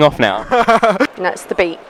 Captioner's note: laughs